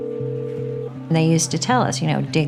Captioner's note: phone ringing